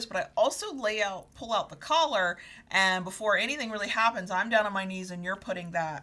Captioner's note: none